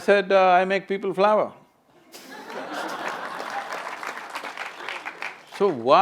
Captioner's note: laughter/Applause